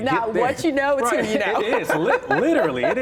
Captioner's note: laughs